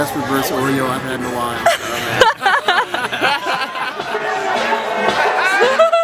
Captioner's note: laughs; upbeat music